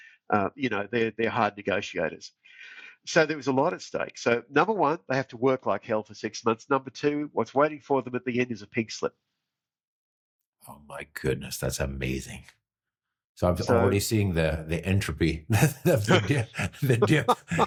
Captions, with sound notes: they're hard negotiators. So there was a lot at stake. So number one, they have to work like hell for six months. Number two, what's waiting for them at the end is a pig slip. Oh my goodness, that's amazing. So I've already seen the entropy. (laughing) Yeah.